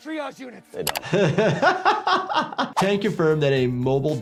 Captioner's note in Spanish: doctor riendo